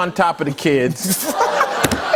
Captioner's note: laughter